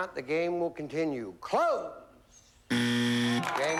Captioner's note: buzzer